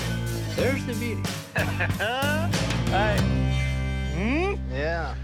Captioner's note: chuckling